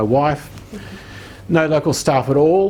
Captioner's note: laughing